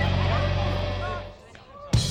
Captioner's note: dramatic music; audience sighs; audience gasping; dramatic music